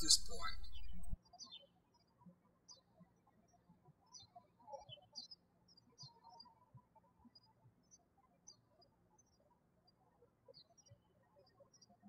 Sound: birds chirping

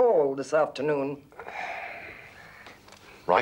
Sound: sighs

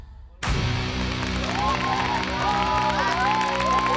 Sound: cheering

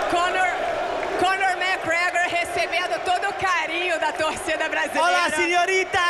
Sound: speaking Portuguese

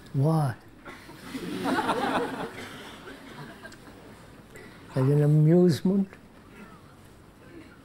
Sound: laughter

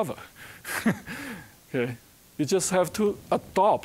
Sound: chuckling

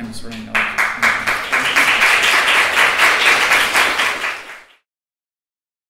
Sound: audience applauds

